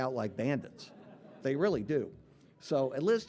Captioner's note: audience laughing